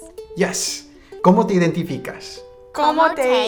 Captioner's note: speaking in a foreign language